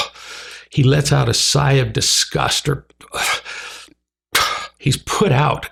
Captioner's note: huffing and puffing